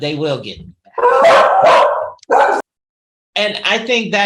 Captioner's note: dog barks